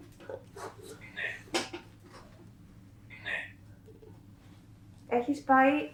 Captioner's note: achmet – artificial male voice